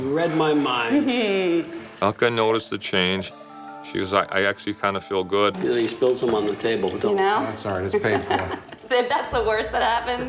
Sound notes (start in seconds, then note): 1.2 chuckles